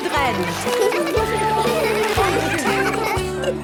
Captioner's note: laughter; giggling